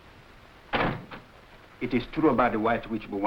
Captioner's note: door slamming